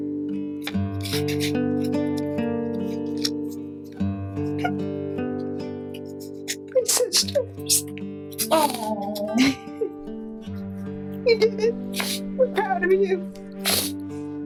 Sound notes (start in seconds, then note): 0.2 mellow guitar music; 3.8 crying